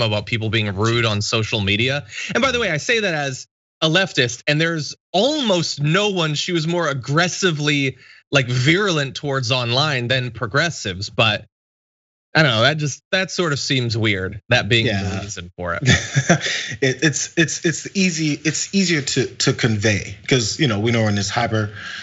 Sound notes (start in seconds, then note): 15.8 laugh